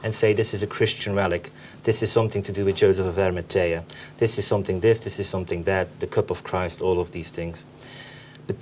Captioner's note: none